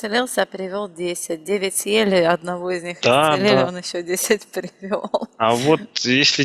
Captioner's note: laughing